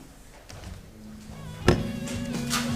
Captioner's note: sounding gavel